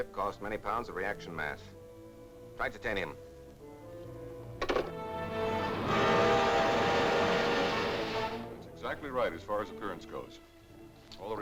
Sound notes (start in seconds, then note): 4.7 dramatic music; 5.0 hissing sound